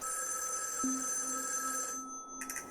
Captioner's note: the phone suddenly rings